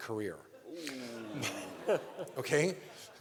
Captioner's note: laughter